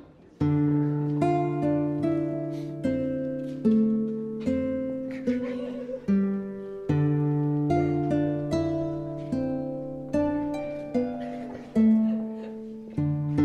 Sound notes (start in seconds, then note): 2.3 acoustic Guitar, Harp & Drums, Fantasy Music; 2.3 soft background chatter